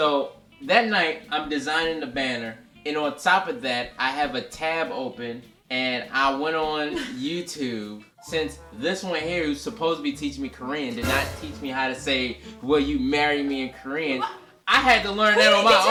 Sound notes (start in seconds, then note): none